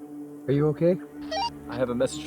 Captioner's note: radio squelch